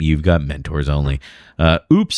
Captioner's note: uh